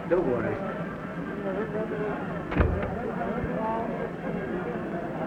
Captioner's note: people chattering